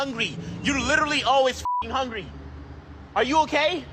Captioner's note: beep